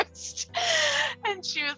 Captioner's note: laughing